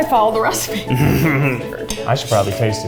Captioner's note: laughs